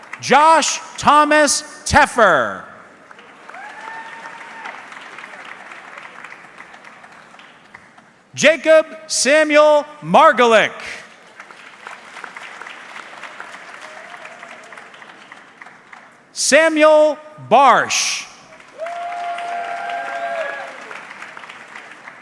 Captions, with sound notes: Josh Thomas Teffer. (audience clapping) Jacob Samuel Margolic. (audience clapping) Samuel Barsh. (audience clapping)